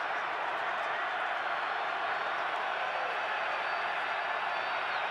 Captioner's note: cheers